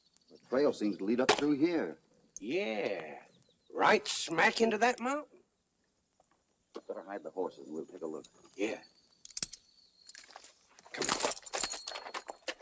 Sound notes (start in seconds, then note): none